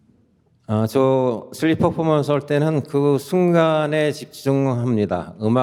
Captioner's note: speaking in Korean